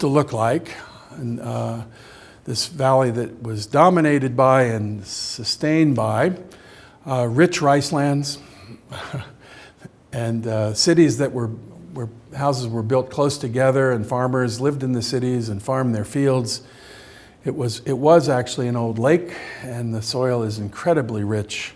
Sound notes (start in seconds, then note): 8.9 chuckles